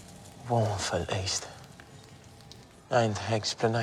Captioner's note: fire whooshing, crackling